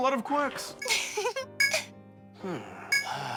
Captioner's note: girl giggles; sighs